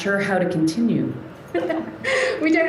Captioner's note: laughter